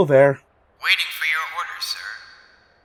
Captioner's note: Felger radio voice